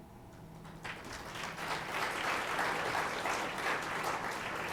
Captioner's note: applause